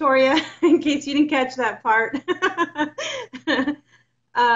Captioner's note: laughs